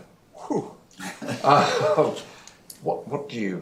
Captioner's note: laughter